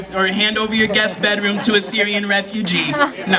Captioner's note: laughter